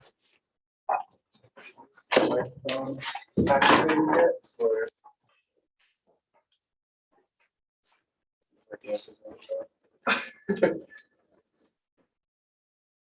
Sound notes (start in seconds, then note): 8.6 indistinct conversation